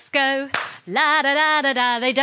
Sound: claps

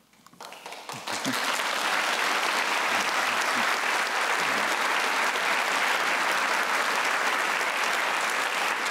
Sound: applause

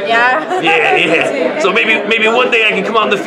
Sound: laughs

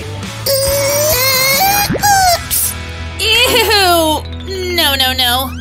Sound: grunting

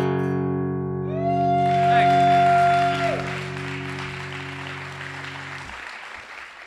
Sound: cheering and applause

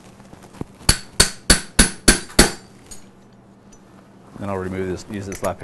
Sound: hammering sound

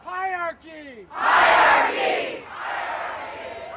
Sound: cheering

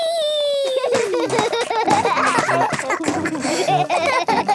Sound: both laugh

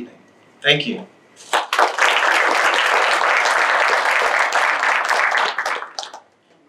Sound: applause

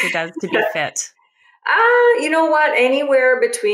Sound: laughs

